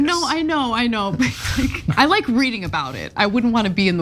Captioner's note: laugh